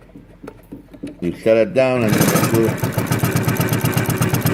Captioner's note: drowned out by rattling